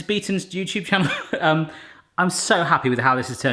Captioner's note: laughs